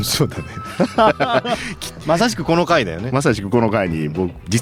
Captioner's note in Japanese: 笑い